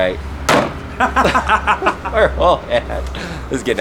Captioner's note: banging and laughing